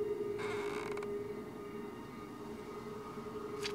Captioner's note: creaks